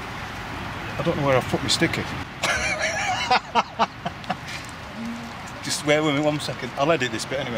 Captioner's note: laughing